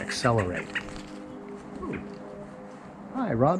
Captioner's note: bird chirping as it flys